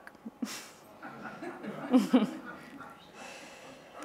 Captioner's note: laughter